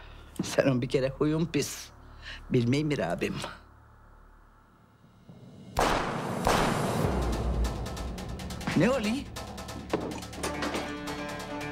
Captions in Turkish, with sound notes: Senin bir kere huyun pis. Bilmiyor mu abim? (Silah sesleri.) Ne oluyor?